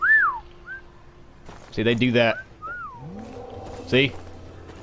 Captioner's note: whistling romantically; whistling romantically